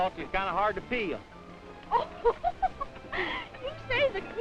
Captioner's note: henrietta laughing